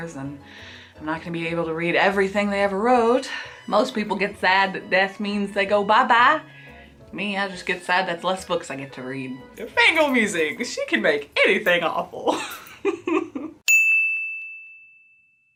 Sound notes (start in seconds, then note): 13.6 ding; 13.8 laughs